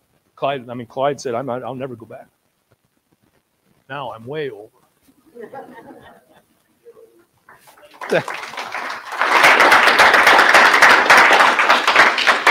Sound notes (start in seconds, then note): 5.3 audience laughing; 7.4 audience clapping